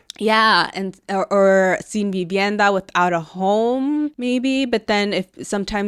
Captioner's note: speaks in Spanish